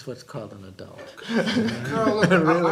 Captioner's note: laughter